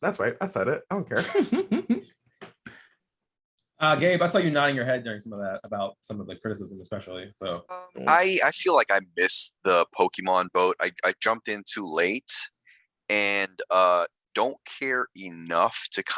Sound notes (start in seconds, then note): 1.1 laughing